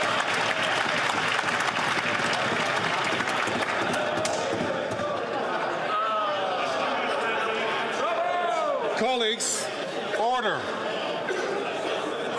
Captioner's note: some Applause